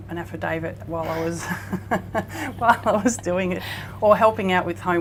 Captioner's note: laughing